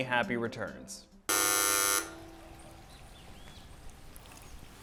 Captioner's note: door buzzing